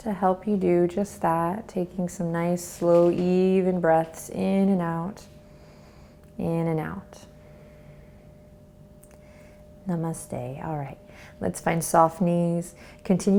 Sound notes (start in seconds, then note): 5.8 inhales; 7.5 exhales